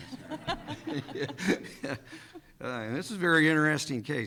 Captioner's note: everyone laughing